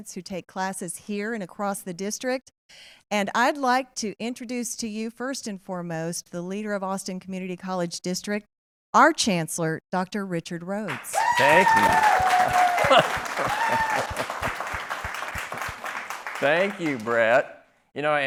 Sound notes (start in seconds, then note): 14.1 applause